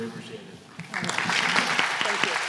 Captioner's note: applause